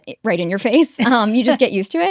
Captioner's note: laughs